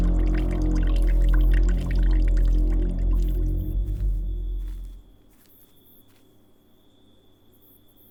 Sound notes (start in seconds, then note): 4.7 crickets chirp